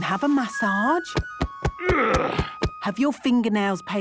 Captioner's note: thumping; moaning